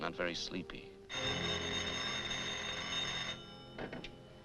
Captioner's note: phone rings